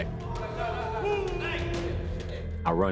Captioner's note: inmates clamoring